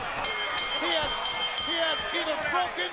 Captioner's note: bell ringing